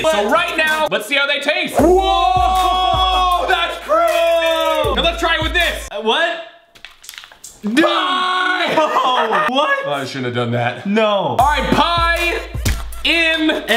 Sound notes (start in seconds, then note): 1.8 both men shout; 7.8 screams